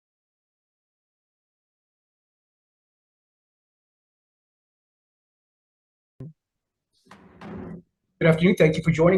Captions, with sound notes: (gavel bangs) - Good afternoon.